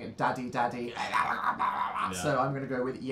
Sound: hoarse sputtering noises

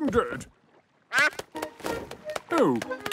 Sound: quacks

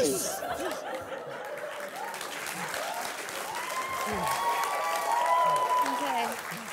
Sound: audience applauding

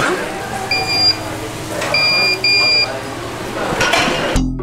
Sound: machine beeps

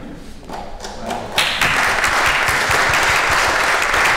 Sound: applause

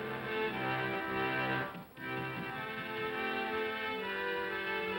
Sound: music plays outside; pounding on door

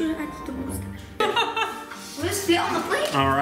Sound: laughing

